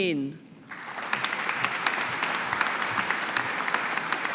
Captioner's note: audience applauding